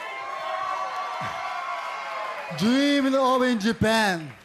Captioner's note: cheers and applause